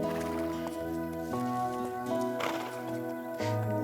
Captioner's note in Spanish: Relinchos